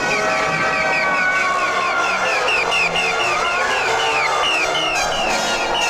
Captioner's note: Chooper screaming